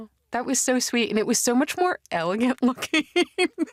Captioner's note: laughs